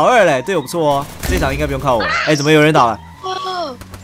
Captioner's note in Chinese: 慘叫